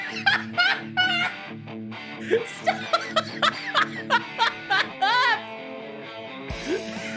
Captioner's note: laughing